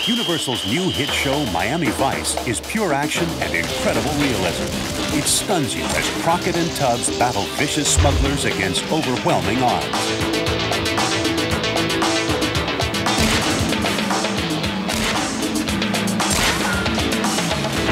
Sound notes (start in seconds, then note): 10.5 theme music; 13.0 gun shot; 16.2 gun shots